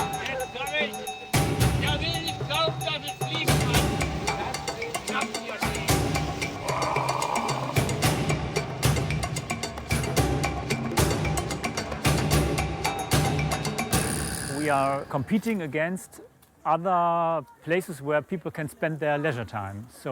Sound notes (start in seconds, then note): 6.6 roar; 10.0 percussion music